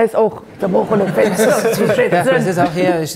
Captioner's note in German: Sie verstellt ihre Stimme; Mit Karl-Lauterbach-Stimme